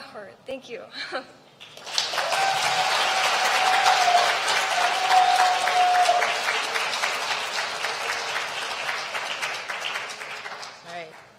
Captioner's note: applause